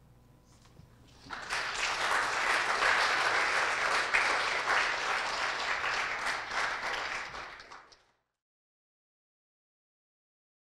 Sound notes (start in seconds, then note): 1.2 audience applauds